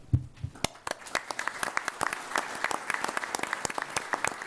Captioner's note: applause